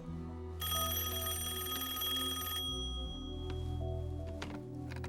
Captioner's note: rings